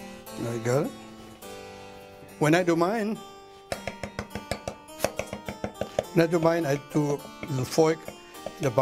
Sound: chopping

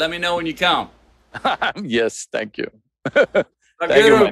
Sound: laughs

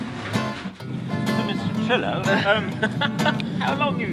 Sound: laughs

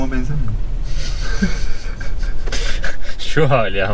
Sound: laughs

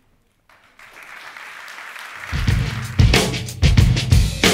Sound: applauding; upbeat music

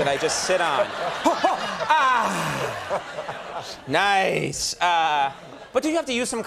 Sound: Conan vocalizing

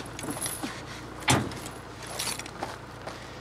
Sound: car door slams

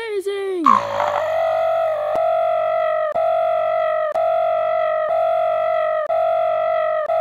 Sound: dying bird

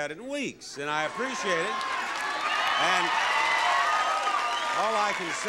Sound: audience cheering

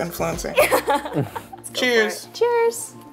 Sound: laughs

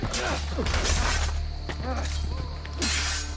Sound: fighting sounds

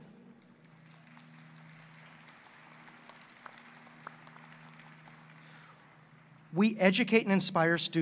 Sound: applause

